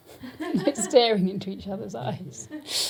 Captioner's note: giggling